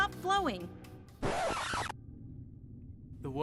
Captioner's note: needle scratches record vinyl